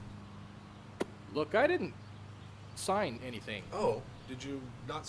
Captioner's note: pops lip